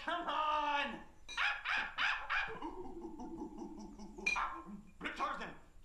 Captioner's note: imitates monkey chattering